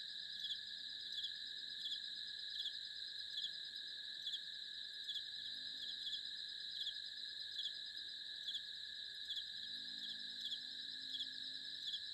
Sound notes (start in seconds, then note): 5.6 crickets Chirping